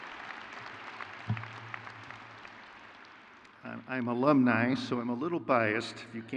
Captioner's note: crowd cheers; crowd claps